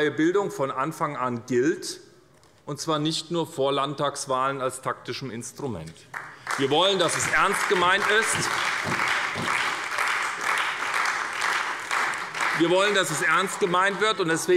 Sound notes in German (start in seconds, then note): 6.1 Beifall bei der SPD